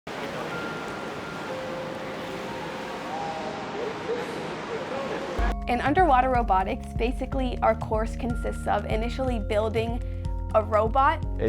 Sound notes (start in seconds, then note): 0.0 gentle water noises